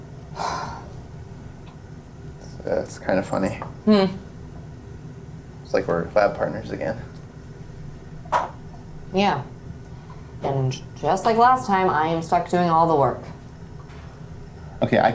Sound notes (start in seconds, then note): 0.3 Miles sighs